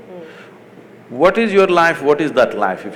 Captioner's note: none